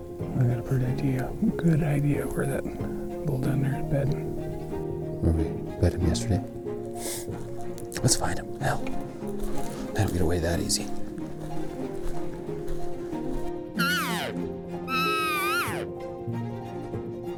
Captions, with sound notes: I got a pretty good idea where that bull down there is bedding. Where we bed him yesterday? Let’s find him! Hell, they don’t get away that easy! (Cow calling)